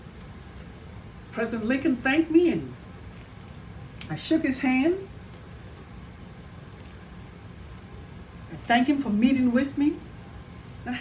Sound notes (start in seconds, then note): none